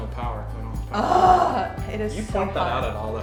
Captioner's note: groans